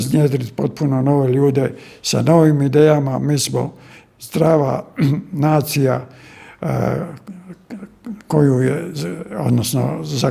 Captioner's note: coughs